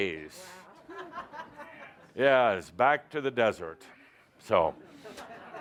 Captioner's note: laughter